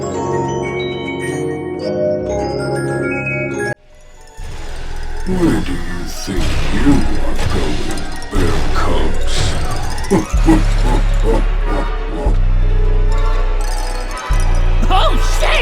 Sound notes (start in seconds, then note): 10.0 sinister, deep laughter